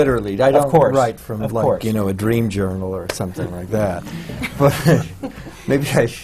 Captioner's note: laughter